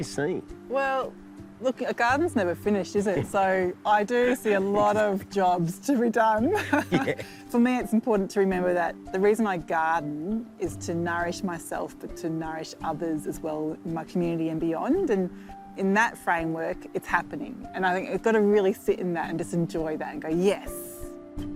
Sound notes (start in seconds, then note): 4.2 laughs